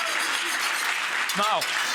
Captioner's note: audience applauding; whisk scraping